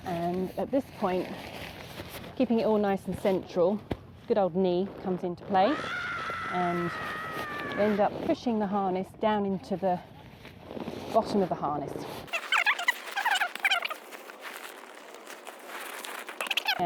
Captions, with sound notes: and at this point, keeping it all nice and central, good old knee comes into play (screaming sound effect) and ends up pushing the harness down into the bottom of the harness. (sped up talking)